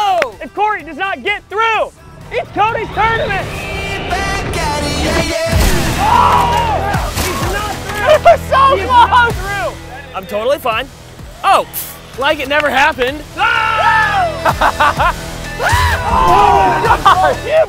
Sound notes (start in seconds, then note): 3.2 singing; 5.8 exclamations; 14.3 laughter